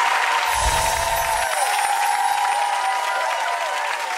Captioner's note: audience applauding; chimes tinkling